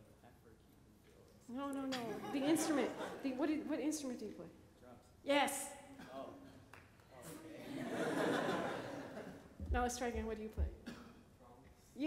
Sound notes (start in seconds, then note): 7.6 laughter